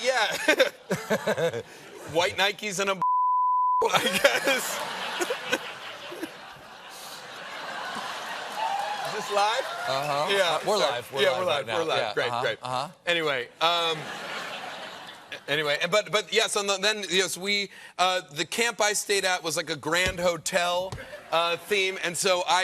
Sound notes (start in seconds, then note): 7.1 laughter; 13.8 laughter